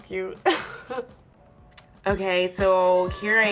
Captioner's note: laughing